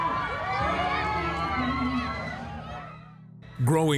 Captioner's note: crowd cheering